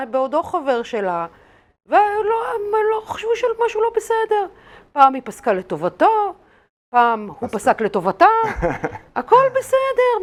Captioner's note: laughing